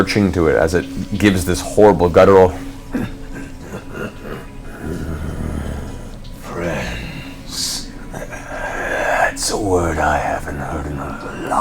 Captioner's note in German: leises Lachen